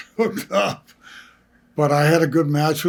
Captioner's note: laughs